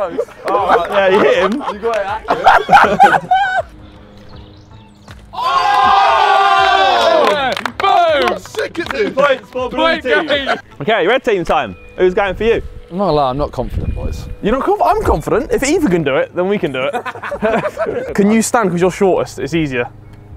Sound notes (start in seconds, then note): 2.5 men laughing; 5.1 men clapping; 18.3 men laughing